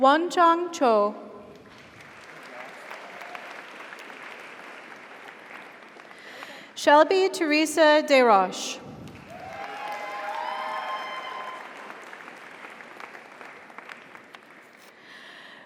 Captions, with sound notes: Wonchang Cho. (audience applauds) (audience cheers) Shelby Theresa Desroches. (audience applauds) (audience cheers)